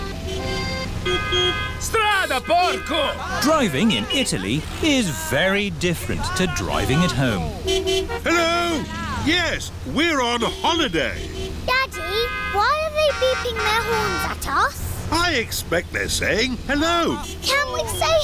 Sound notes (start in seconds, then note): 0.1 driver yells in italian; 0.1 horns honking; 8.6 horns honking